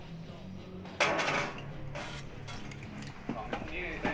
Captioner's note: nickel clanging